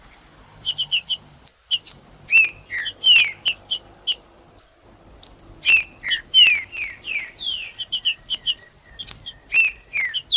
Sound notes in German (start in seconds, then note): 0.6 trinca ferro cantando; 9.3 trinca ferro cantando